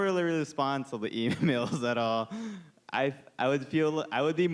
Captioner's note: laughing